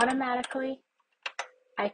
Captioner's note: keyboard button presses